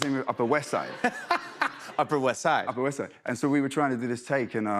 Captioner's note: laughs